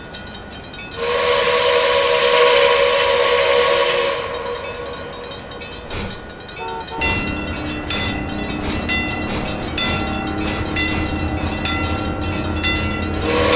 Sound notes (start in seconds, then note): 0.7 Lackawanna S-3 whistle, wig wag ringing